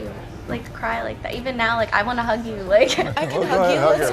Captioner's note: laughs